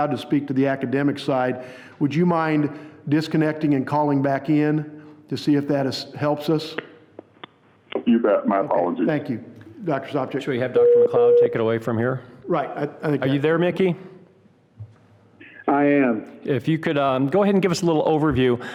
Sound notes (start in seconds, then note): 10.7 phone beeping